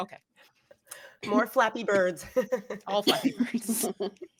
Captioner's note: chuckles